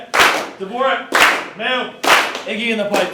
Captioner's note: team claps